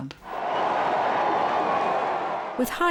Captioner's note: crowd cheering